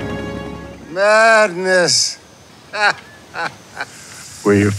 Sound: chuckles

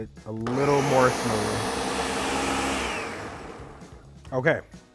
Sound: blender whirring

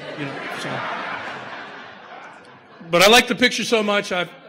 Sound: audience laughter

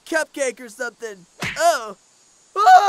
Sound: smack

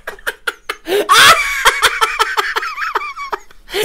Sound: more Wheezing Cackles; screaming Laughs

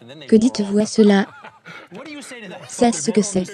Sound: laughs

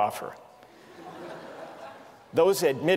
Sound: laughter

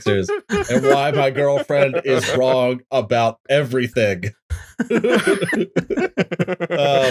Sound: laughter

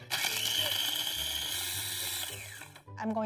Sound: food processor running

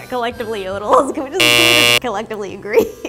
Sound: buzzer sounds

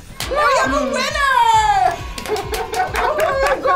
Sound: crowd cheers; laughing

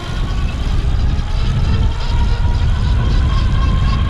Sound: motor running

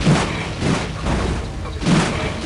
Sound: metal sounds

